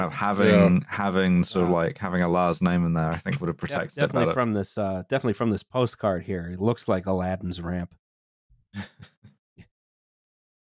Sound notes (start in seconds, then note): 8.8 brief, quiet laughter